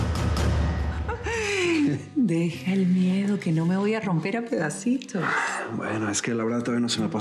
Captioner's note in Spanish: risas